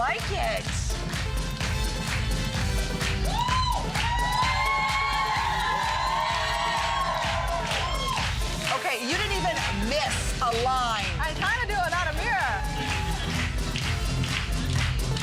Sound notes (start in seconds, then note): 2.1 applause